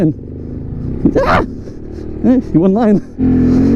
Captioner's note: screeches